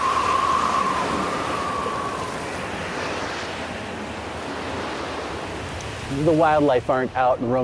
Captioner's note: wind howling